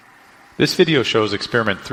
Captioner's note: voiceover